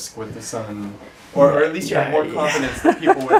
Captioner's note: laugh